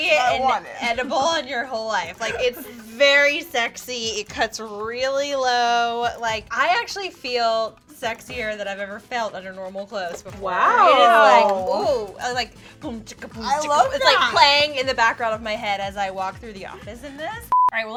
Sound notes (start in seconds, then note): 10.2 imitating dance music sounds; 17.4 beeping